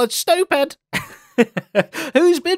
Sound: laughs

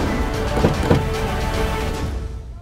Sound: car door opening

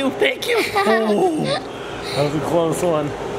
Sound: giggles

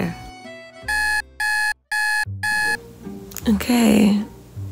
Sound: alarm ringing

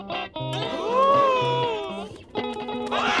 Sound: gasping; screaming

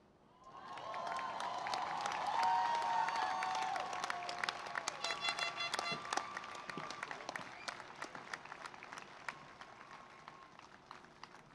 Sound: cheering and Applause

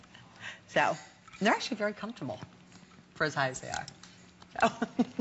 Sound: laughter

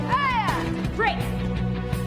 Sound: Caitlin shouts; speaking foreign language

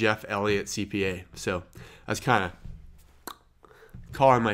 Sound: imitates cracking

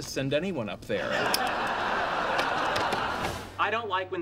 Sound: audience laughing

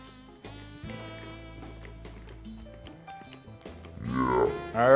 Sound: lotion squirting

